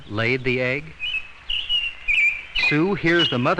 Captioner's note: bird chirping